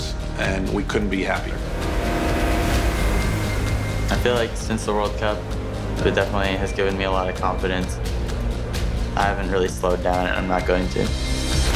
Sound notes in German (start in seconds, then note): 1.7 Motorengeräusche